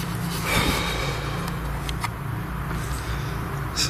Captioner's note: heavy breath